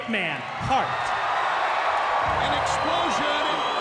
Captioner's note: crowd cheering